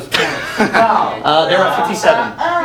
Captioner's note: chatter